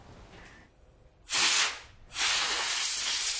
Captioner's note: hissing sound